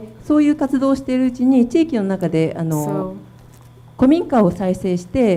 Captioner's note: speaking foreign language